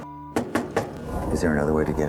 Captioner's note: knocking on door